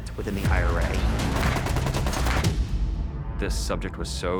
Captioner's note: gunfire